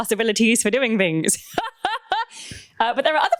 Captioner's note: laughs